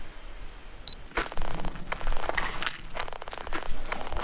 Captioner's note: metal detector crackling; camera beeps; insects chittering